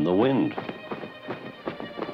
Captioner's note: wings flapping